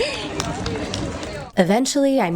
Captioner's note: giggles